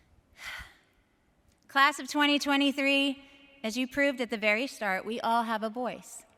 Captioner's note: sighs